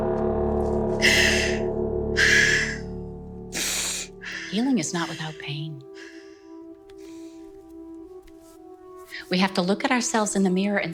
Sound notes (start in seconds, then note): 1.0 Ally panting